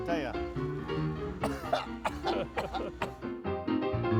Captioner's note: coughing; lively piano music